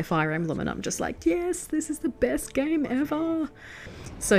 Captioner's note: in her squeakiest voice